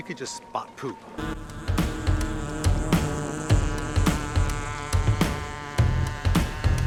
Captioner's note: drone buzzes; energetic rock music